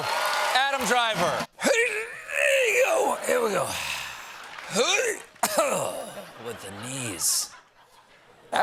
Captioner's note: old man sounds